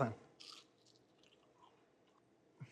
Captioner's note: crunching into it